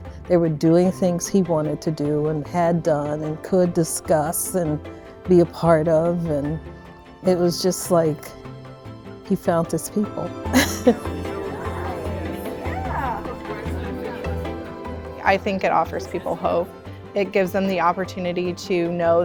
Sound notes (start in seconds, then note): 10.8 people chattering; 11.0 upbeat music